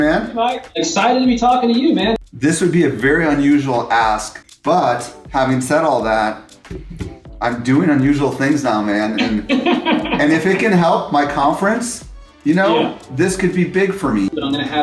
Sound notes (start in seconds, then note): 9.2 laughter